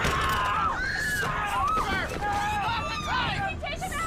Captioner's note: yelling